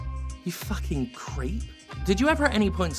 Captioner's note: quietly